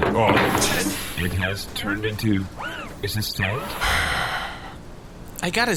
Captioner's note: shopkeep sighs